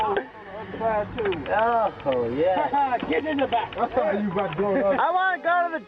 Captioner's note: soldiers chattering and laughing